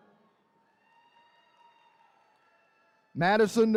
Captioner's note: attendees cheering